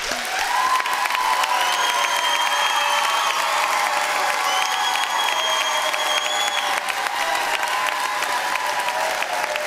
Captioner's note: applause